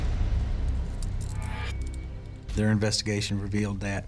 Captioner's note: handcuffs clicking